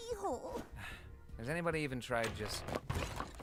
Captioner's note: sighs